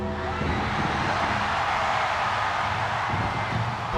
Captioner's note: ominous music; audience cheers